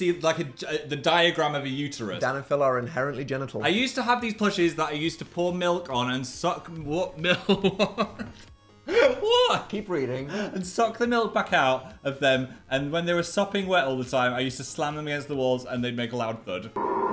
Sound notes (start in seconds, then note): 7.2 chuckles